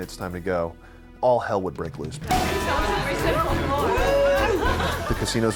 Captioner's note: people celebrate